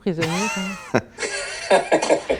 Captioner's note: laughter